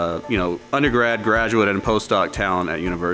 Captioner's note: machine running